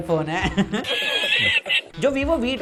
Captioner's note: laughs